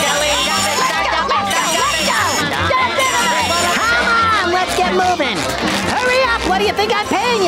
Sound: panicked shouting

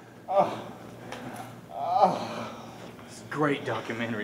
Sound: moaning

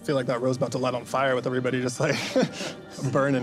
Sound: laughs

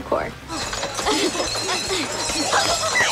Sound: bottles clinking

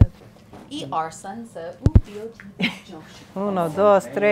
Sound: speaking a foreign language

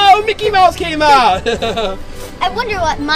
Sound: laughs

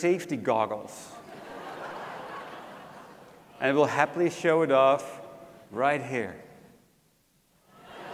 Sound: laugh

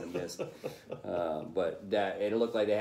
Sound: laughter

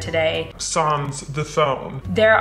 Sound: voiceover

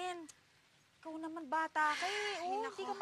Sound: sighs

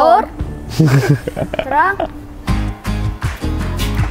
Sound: laughing

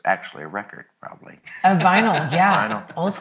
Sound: laughs

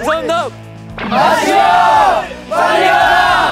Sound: there is more cheering

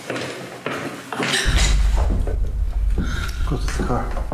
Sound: gasping

